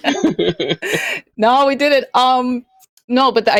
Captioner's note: laughter